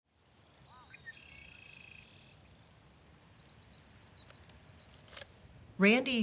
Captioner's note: birds chirping